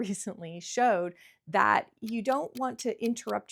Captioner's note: timer ticking